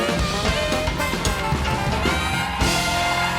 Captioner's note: cheers and applause